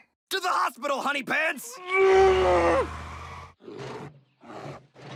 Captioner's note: roars